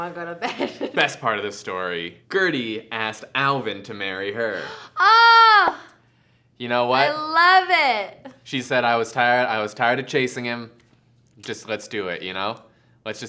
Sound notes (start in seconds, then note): 4.5 gasp